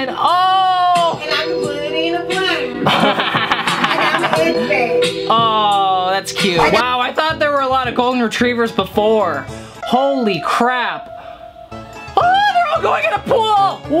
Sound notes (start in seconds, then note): 2.7 laughing